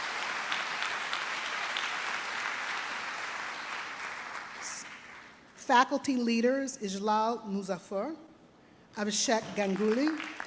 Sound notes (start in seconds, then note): 0.0 trustees and audience applauding